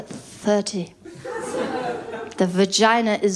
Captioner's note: laughter